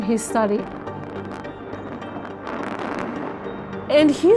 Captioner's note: explosives detonating